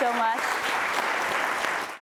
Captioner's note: applause